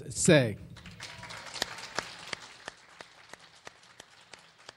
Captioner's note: clapping